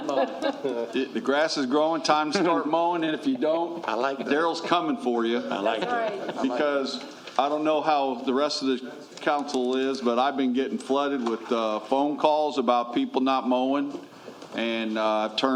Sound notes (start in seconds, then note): 2.6 laughter